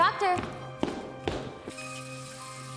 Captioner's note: high heel footsteps echo